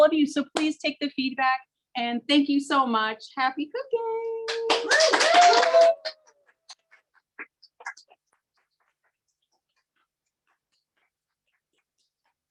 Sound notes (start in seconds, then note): 4.6 audience applauds; 7.2 applauds